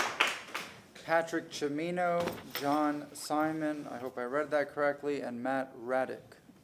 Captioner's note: applause